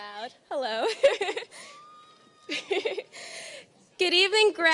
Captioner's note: laughing